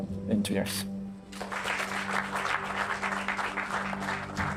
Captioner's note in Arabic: الجمهور يصفق